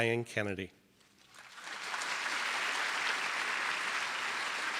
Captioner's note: audience applause